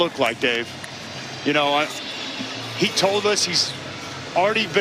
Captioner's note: sirens wailing